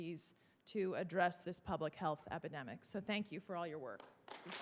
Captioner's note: applause